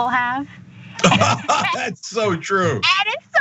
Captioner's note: laugh